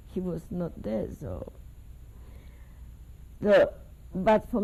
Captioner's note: pauses for 3 seconds